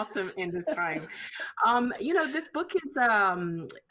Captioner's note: laughing